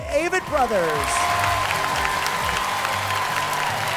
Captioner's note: applause